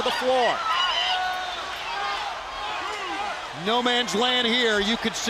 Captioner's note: crowd cheering